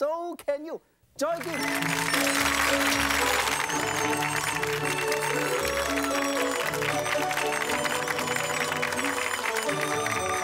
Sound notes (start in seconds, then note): 1.3 audience applauds; 1.3 joyful music